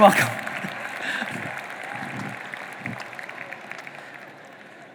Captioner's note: audience applauding